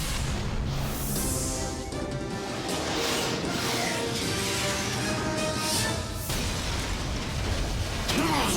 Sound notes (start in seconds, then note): 0.0 metallic crunch and explosion; 4.2 rockets whoosh; 7.7 huge explosion